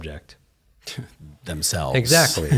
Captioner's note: laughs